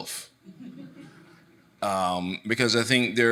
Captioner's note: audience chuckling